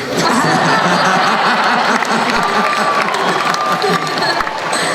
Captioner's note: laughing